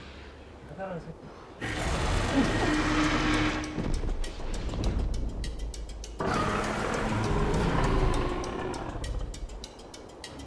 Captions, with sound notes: - Are you scared, I thought... (dragon growls) (dramatic music)